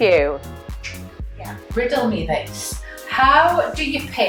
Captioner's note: fingers clicking